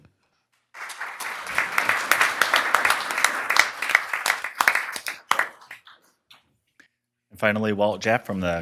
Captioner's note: applause